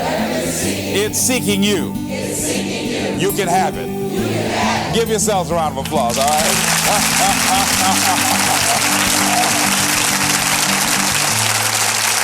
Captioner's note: chuckle - Applause